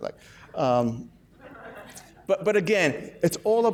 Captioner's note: laughs